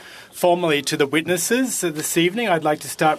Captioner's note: speaking French